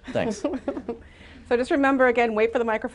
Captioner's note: laughter